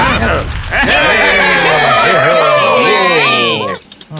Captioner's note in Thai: เสียงตึง; โห่ร้องดีใจ